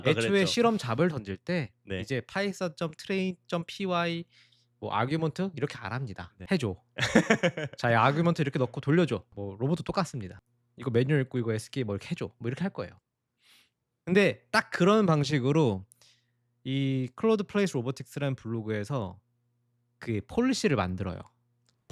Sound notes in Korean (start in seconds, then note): 7.0 웃음